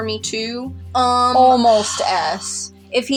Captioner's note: sigh